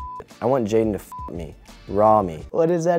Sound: beep

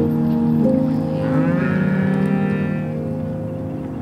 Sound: cows mooing

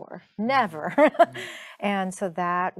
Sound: chuckling

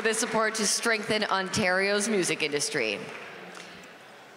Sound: applause

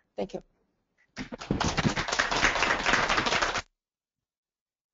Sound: applause

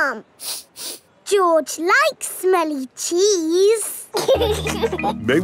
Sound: sniffs; laughing

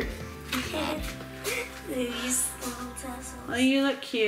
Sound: laughs

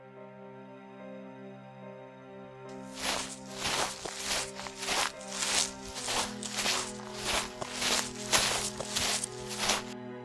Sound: footsteps

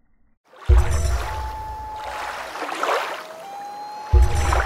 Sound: splashing water, loon call

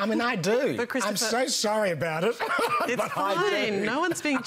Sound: laughs

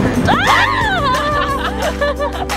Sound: squealing

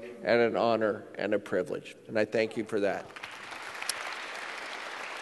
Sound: applause

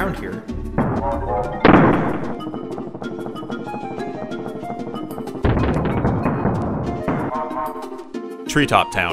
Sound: barrel launching and crashing

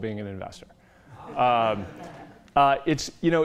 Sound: laughter

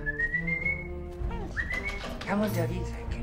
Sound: whistles

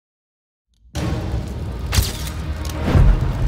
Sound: tense dramatic music; flames whooshing; camera shuttering; logo whooshing

